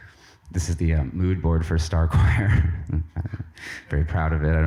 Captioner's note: chuckles